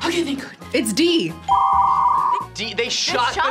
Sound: modem screeches

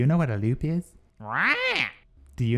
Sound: squawks

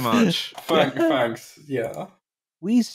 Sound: laughter

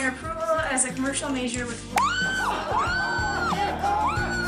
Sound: woman screams

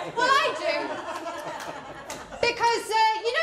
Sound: laughter

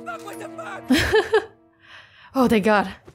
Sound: laughs

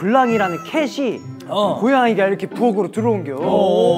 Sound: meow

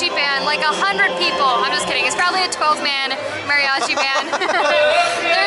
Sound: laughter

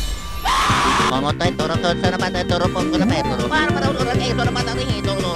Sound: prays in tongues

